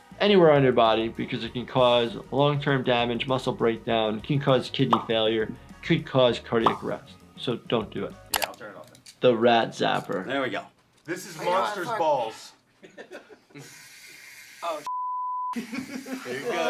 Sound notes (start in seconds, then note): 12.7 Jackass members laugh; 14.9 beep